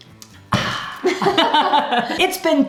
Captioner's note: exhales; laughing